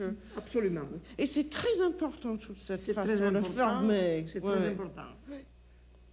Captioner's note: conversing in French